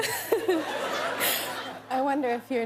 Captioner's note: laughter